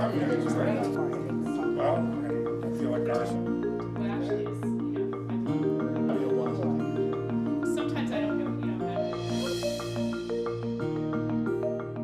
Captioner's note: conversation chatter